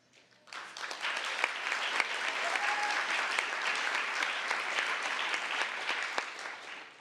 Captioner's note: applause